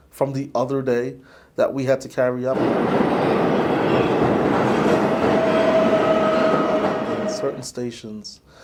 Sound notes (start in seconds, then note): 2.5 loud train noises